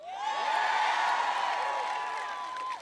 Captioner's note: applause